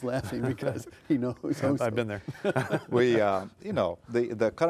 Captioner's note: laughing